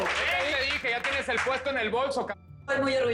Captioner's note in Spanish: Aplausos